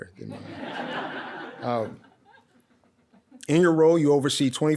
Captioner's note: audience laughs